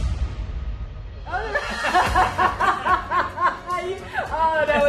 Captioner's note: laughter